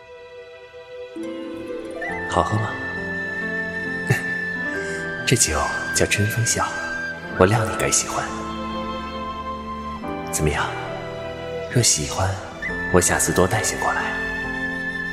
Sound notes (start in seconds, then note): 3.2 laughter